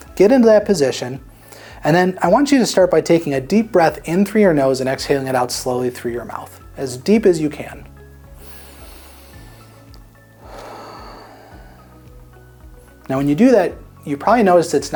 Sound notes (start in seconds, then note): 8.3 inhaling; 10.4 exhaling